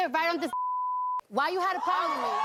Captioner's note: beep